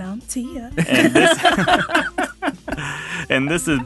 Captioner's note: all laughing